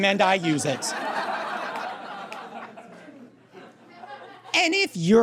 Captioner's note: audience guffaws